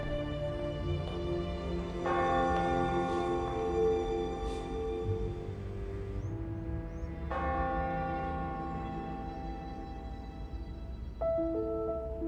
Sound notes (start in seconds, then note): 1.7 church bell ringing; 6.9 church bell ringing; 10.8 mystical piano music